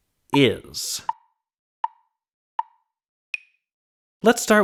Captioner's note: tick, tick, tick, tick, tock